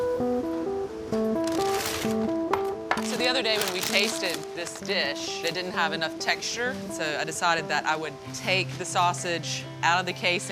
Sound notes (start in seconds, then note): 1.3 paper crumpling